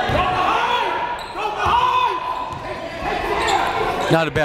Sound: cheering and yelling

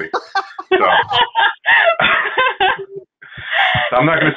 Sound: laughing

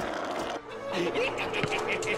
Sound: cackling

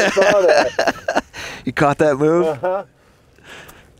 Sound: laughing

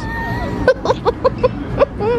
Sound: laughing

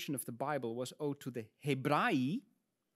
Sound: speaks in Latin

